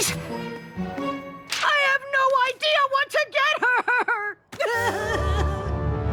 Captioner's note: sobbing